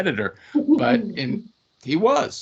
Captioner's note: chuckling